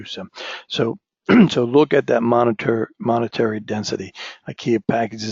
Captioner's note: cough